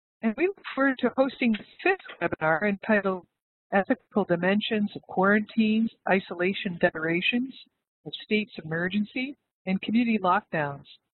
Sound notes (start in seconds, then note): 0.3 audio distorts